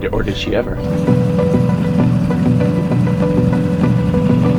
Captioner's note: boat whirring